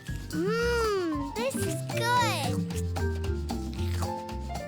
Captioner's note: slurping